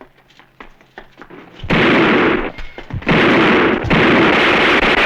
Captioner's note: gunfire